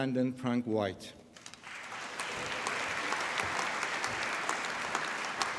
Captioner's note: applause